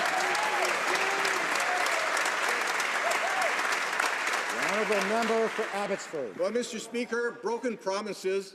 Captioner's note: some Applause